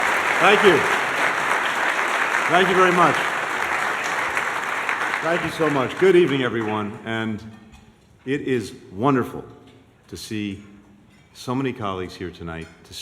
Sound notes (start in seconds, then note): 0.0 applause